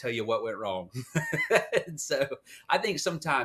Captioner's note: laugh